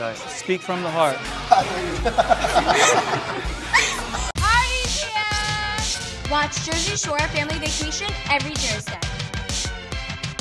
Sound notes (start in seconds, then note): 3.3 laughter